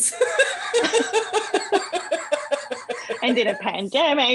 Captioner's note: laughter